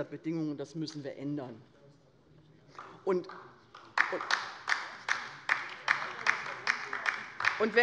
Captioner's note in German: Beifall bei der LINKEN